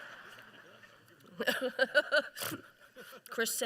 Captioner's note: laughter